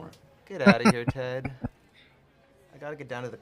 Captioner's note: chuckling